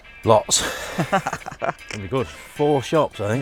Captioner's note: laughs